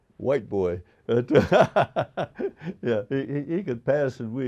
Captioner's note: laughing